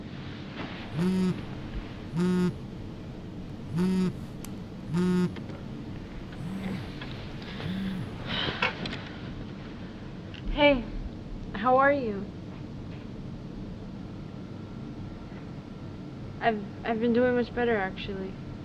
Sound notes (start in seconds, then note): 0.4 bed sheets rustling; 6.0 bed creaking; 7.5 sigh